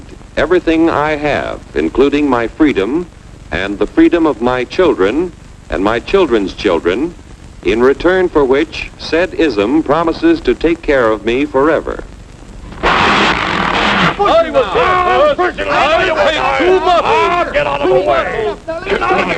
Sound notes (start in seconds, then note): 12.8 bull bellowing; 14.4 men screaming